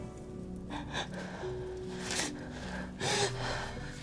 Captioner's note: Kira sobbing